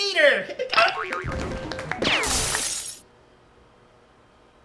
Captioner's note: series of strange sound effects